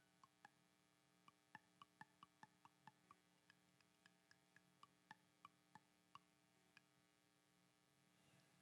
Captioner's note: tapping on flute